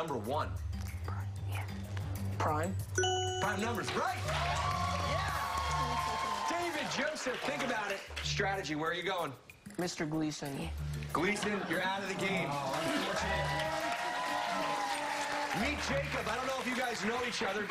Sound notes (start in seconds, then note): 8.2 cheers and applause